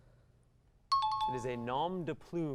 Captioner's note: timer